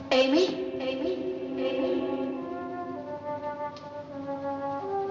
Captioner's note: echoes